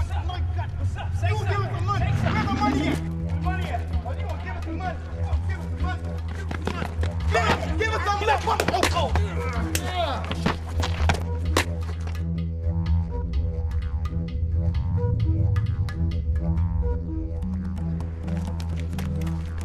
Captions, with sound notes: (ominous music) Where my money at? Come on, give us the money! Give us the money! (didgeridoo music) (men yelling) (men groaning) (fists smacking) (fists smacking) (didgeridoo music)